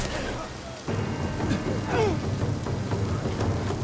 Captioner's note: grunting